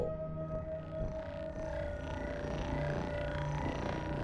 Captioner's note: buzzing